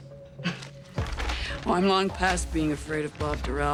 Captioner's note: chuckles